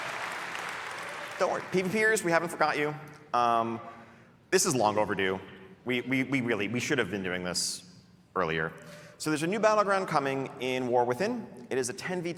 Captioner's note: applause and cheering